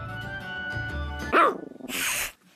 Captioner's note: puppy growling